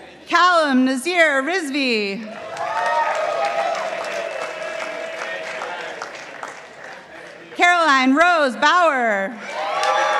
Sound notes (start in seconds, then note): 2.2 participants applauding